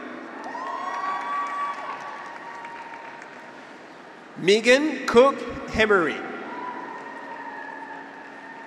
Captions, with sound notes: (graduates cheer) (audience applauds) Megan Cook Emery.